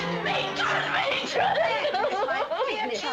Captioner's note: sobbing